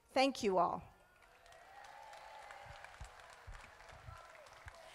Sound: crowd applauding

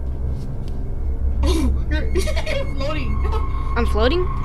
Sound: laughs

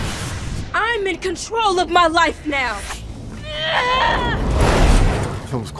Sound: screams

